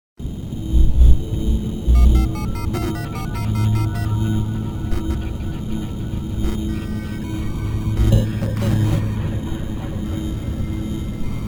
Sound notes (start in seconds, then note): 0.3 ominous music; 3.7 dialing tones